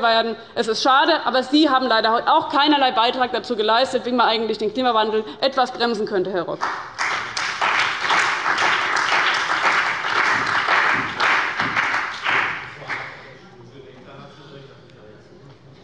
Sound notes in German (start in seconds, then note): 6.6 Beifall bei dem BÜNDNIS 90/DIE GRÜNEN und der CDU